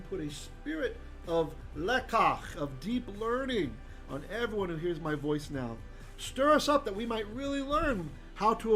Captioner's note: Hebrew